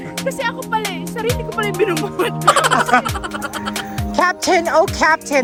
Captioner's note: laughing